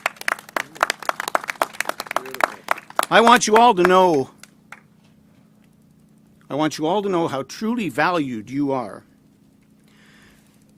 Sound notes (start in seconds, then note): 3.7 applause